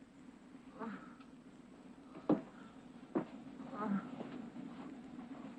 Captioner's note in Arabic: أصوات تأوه